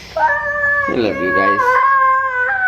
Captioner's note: screaming